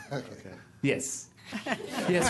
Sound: laughter

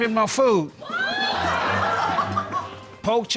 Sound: laughter

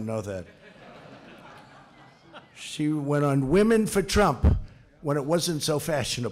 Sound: laughter

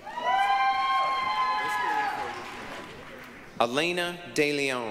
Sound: applause, cheering

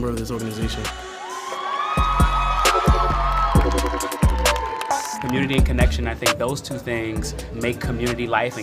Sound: applause

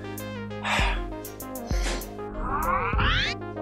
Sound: sigh; rewind sound effects

